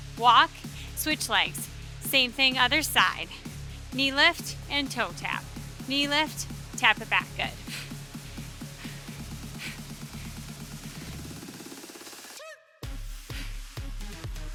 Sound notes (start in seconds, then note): 7.2 breathing deeply; 8.0 upbeat music continuous